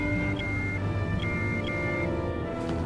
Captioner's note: alarm